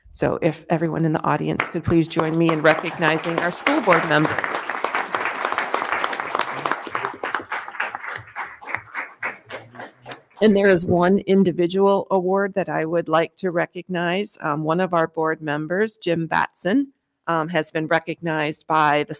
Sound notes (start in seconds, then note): 4.7 attendees clapping